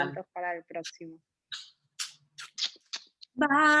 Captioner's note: kisses